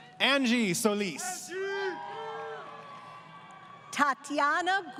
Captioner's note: crowd Cheering